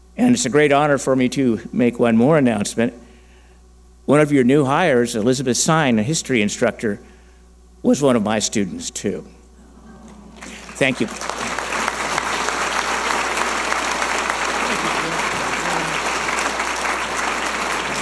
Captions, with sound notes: And it's a great honor for me to make one more announcement. One of your new hires, Elizabeth Sine, a history instructor, was one of my students too. Thank you. (audience applauding)